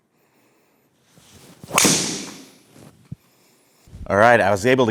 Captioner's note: club hitting